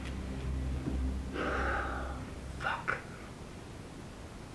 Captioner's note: sighs